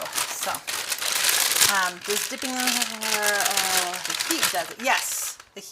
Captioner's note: voice fades